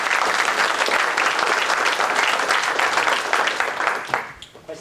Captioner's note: applause